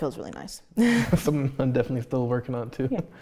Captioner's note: both laugh